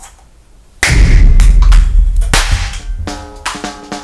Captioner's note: boom